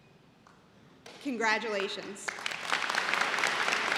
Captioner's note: applause